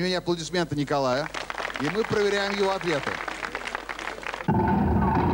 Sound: applause

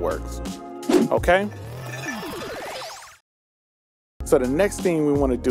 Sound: whooshing sound

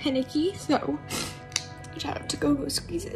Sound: sniffs

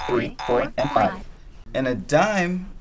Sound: boing sound

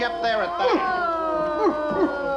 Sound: prisoners groan

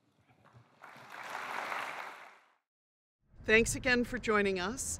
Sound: applause

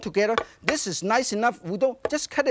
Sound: knife thudding

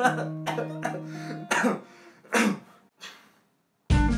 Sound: cough

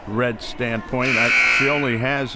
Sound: buzzer

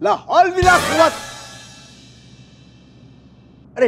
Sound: yells Urdu prayer

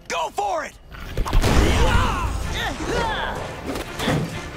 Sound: grunting

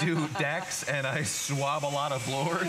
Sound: laughter

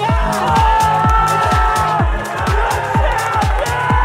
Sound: group shouts

